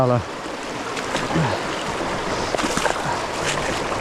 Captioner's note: water rushing